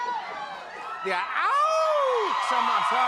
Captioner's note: cheering